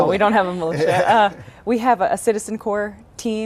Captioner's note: laughs